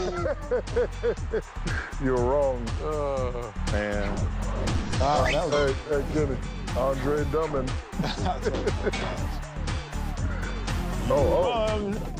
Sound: laughter

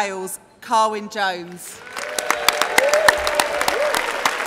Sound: applause

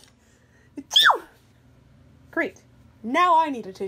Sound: sneezes

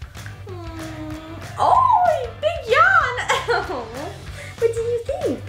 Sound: laughs

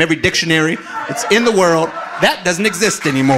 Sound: audience laughing

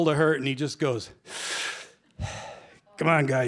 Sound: mock inhales on cigarette, exhales; in gravelly voice

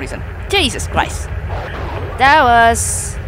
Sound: Leaper attack sound

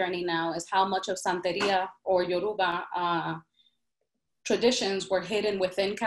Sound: speaks in Spanish

